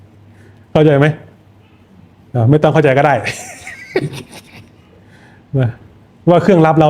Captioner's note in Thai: เสียงหัวเราะ